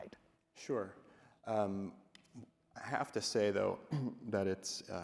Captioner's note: coughs